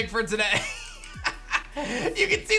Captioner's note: chuckles